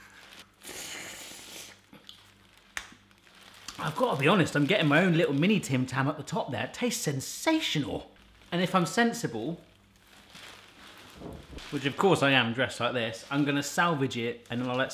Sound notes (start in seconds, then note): 0.0 sucking; 2.0 lips smacking